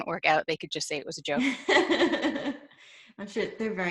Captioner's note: laughs